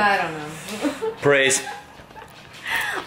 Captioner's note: laughs